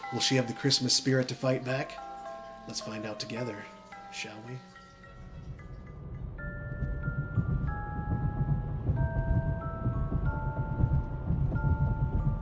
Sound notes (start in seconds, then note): 6.5 gentle tinkling music; 6.5 tires thudding